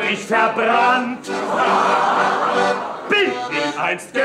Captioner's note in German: Lachen